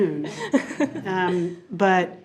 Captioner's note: chuckles